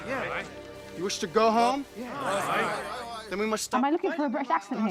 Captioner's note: men murmur in agreement